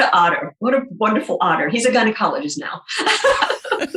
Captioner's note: laughing